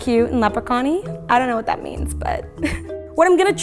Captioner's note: chuckles